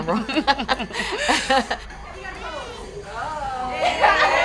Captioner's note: both laughing